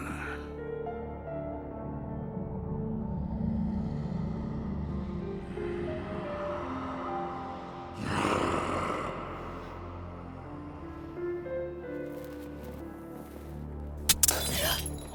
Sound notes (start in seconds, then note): 0.2 suspenseful music; 6.2 growling; 12.1 glass breaking